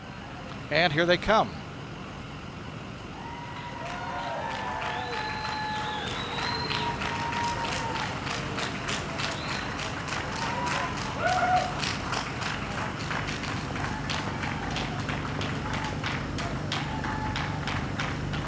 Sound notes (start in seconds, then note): 3.1 cheers